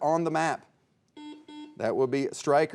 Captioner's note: buzzer beeping